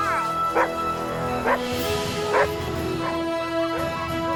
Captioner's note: dogs barking